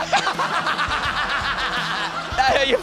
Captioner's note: laughs